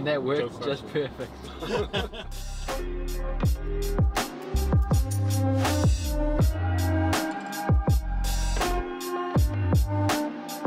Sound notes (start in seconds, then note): 1.4 laughing; 1.6 lively music